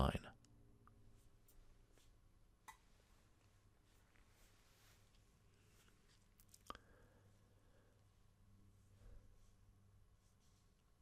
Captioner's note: pause